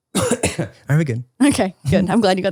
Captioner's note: coughing